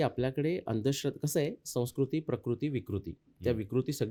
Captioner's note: distortion